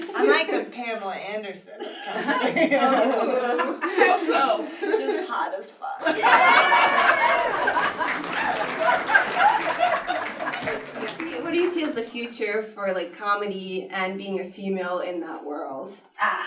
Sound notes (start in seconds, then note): 1.8 laughter; 6.4 applause